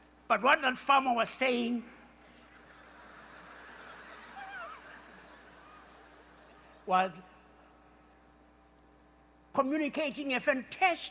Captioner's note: laughter